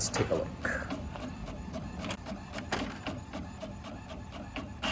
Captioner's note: printer whirring